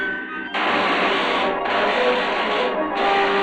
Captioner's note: electricity crackling